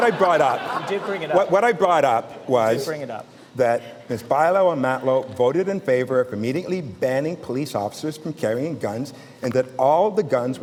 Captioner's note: laughter